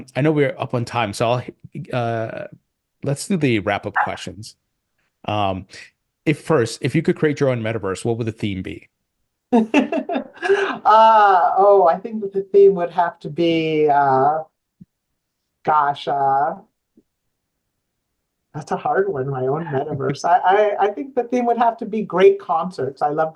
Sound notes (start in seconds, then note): 9.6 laughing